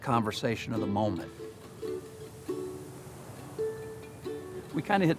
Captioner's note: ocean waves